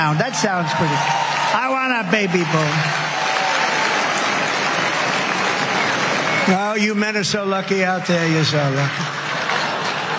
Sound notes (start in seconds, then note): 3.3 applause